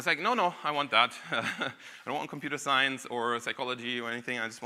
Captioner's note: chuckles